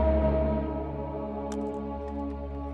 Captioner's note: munching